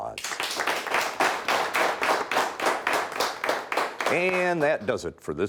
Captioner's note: audience clapping